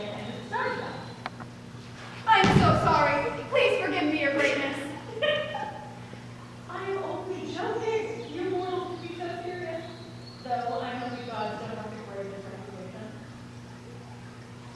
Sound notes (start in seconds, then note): 4.7 EOS laughs